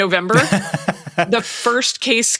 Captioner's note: Nilay laughing